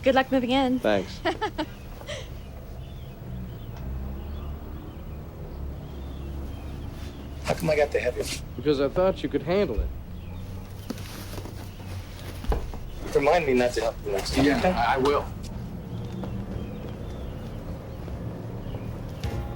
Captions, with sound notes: Good luck moving in. - Thanks. (Margaret laughing) (birds chirping) (vehicle engines revving) (birds chirping) - How come I got the heaviest one? - Because I thought you could handle it. - Remind me not to help - you next time, okay. - Yeah, I will. (birds chirping)